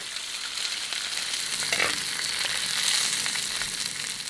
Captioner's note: sizzling